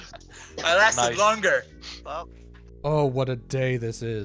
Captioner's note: triumphantly